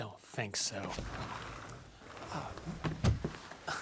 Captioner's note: door rumbles